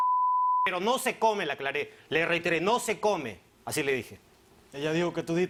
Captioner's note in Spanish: Bip